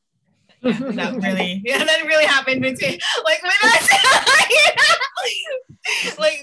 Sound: laughet

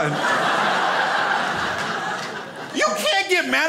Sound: crowd laughs

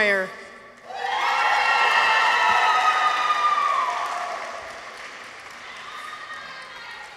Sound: people cheer; audience applauds

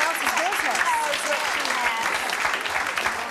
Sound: clapping

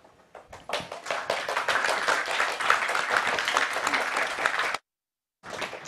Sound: applause

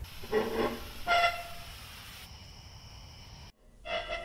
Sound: metal squeaking

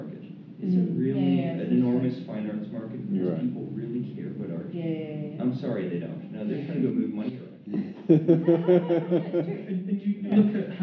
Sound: laughing

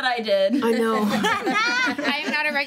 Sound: group laughs

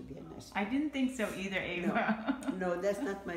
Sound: laugh

